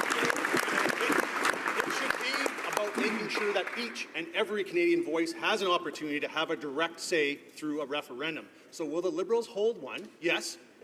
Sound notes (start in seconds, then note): 3.2 some Applause